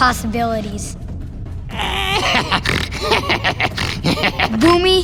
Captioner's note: laughing